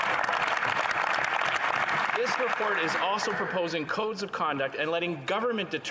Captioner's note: some Applause